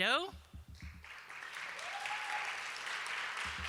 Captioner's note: applause